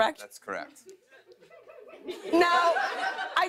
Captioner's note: laughter